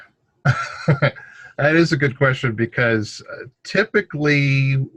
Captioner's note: laughs